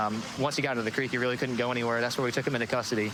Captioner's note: sirens wailing